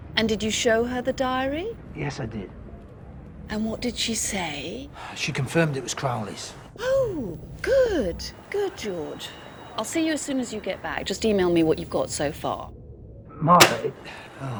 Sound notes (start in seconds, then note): 5.0 sighs; 13.6 phone slams